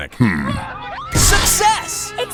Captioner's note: audience screaming